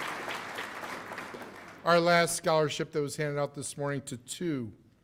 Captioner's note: cheers and applause